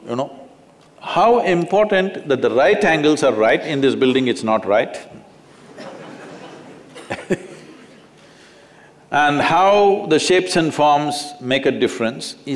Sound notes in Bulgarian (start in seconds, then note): 8.2 Смях